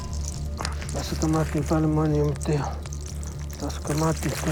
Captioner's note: speaking native language